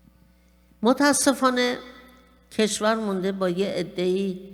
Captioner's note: speaking persian